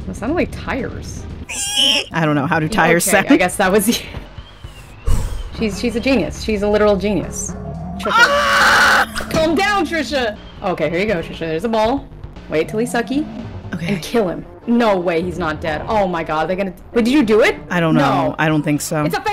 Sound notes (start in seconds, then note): 1.4 imitating tire screeching; 8.0 screaming